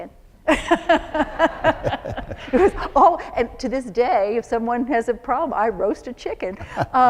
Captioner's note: laughter